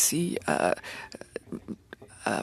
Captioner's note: speaking French